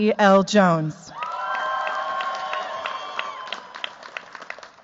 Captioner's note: cheers, applause